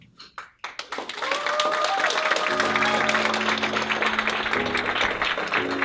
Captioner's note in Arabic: الهتاف والتصفيق; موسيقى البيانو الدرامية